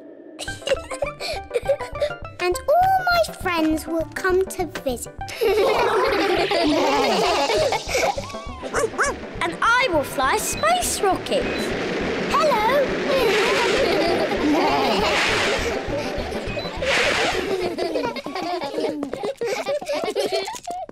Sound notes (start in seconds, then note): 0.4 laughs; 5.3 all laugh; 8.7 barks; 13.1 all laugh